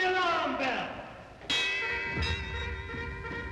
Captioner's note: bells tolling